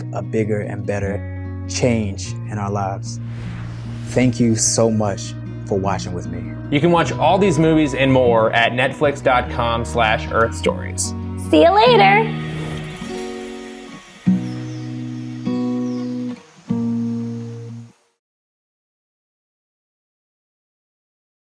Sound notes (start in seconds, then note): 11.8 whooshing; 14.4 birds chirping